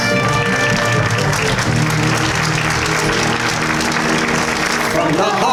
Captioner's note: applause